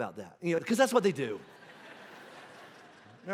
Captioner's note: congregation laughing